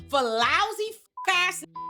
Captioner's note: beep